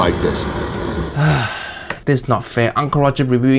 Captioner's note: Uncle Roger sighs